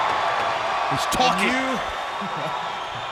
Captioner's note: crowd cheering